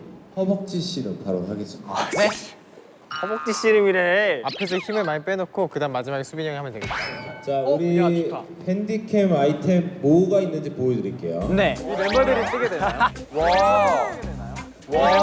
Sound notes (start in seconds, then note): 2.9 sigh